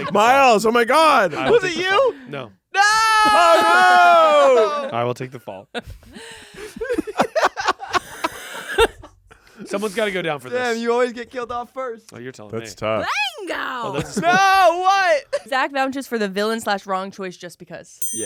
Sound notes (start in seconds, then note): 6.6 everyone laughs